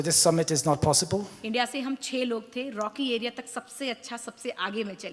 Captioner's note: speaks foreign language